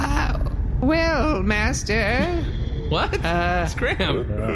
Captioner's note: nervous